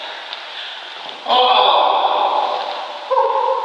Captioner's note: deep breathing